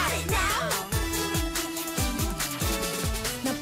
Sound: humming

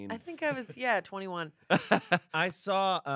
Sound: laughs

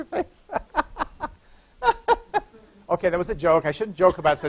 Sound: laughter

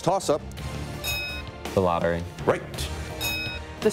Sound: bell dings

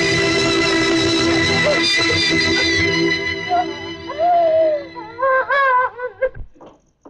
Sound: sobbing

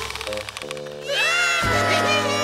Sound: screaming

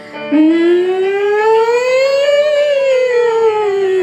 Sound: exciting instrumental music; person humming

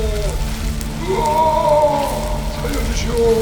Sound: screaming

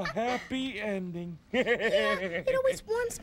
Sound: chuckling

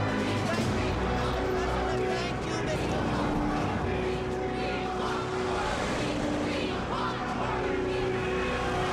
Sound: chanting

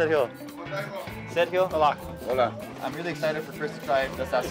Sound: conversing in Spanish

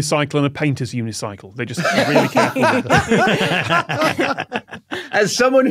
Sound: others laughing

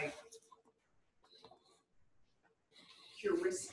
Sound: pause

